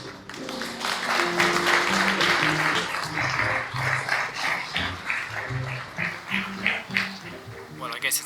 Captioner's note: applause